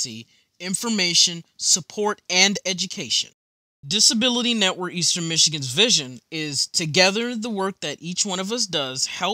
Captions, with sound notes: (Voiceover) Reading screen